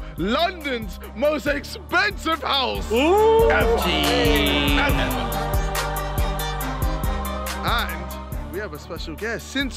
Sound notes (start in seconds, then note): 3.0 cheering; 4.9 trap music